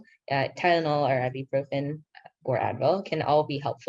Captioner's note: speaking in foreign language